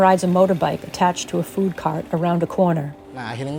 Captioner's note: rattling of motorbike engine